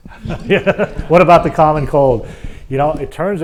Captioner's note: laugh